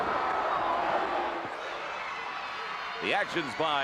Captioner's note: crowd chatter